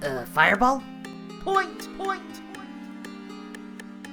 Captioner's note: "point" echoes repeatedly